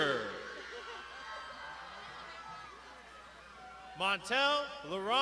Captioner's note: crowd shouting